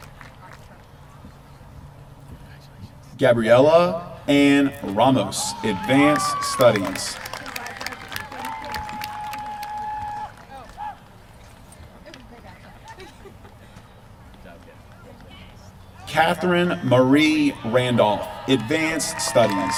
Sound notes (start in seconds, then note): 5.6 applause; 18.4 applause